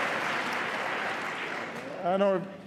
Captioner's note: applause